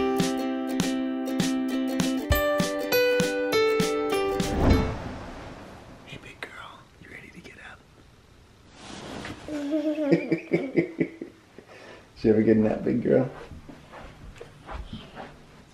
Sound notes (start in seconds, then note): 0.0 upbeat guitar music; 9.5 laughs